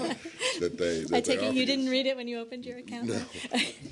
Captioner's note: laughter